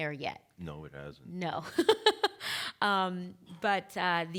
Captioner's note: laughing